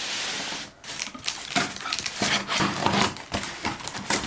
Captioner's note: box sliding; box rustling